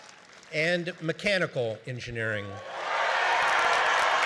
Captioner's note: cheering